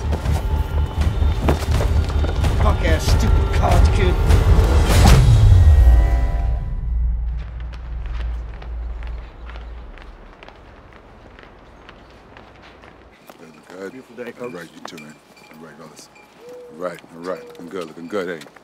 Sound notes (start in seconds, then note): 0.1 tense and menacing electronic music; 5.1 punch thudding over tense electronic swell; 7.3 footsteps crunching